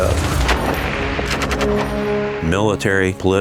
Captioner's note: weapons blast; dramatic music